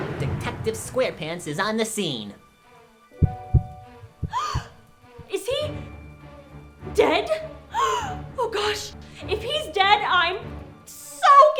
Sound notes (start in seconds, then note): 3.2 heartbeats; 4.1 gasp